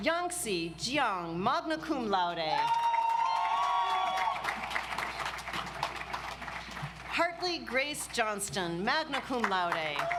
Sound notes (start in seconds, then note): 2.6 audience applauds